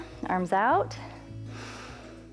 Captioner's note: inhales